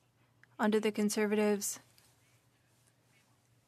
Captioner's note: speaking French